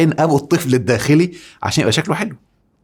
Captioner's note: sarcasm!